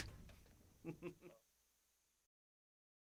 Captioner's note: laughing